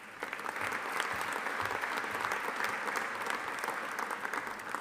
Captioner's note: audience applauding